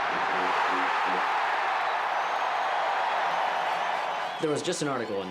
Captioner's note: crowd roars